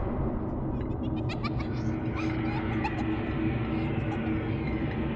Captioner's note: eerie music playing; children's laughter